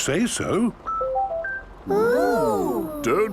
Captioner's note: car chiming